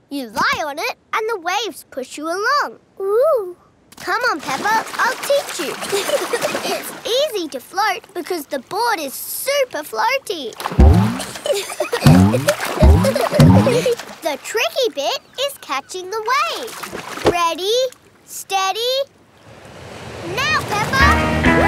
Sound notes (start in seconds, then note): 5.6 giggling; 11.1 giggling